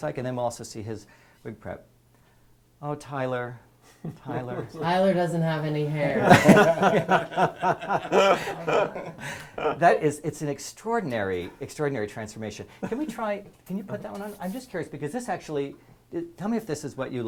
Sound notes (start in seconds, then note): 7.1 laugh